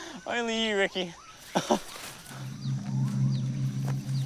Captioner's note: laughs